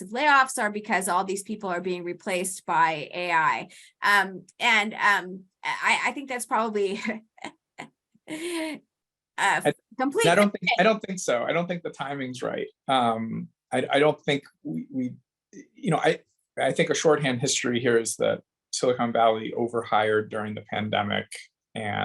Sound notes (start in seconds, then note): 7.8 laughs